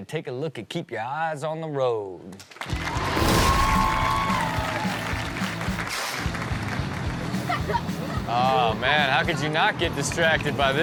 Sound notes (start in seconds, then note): 2.6 audience cheers; 2.8 upbeat music